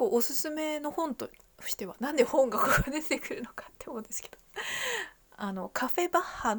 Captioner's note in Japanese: 息をのむ音